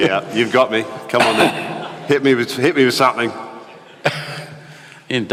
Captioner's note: Sadhguru laughs